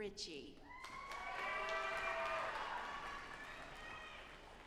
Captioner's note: audience applauding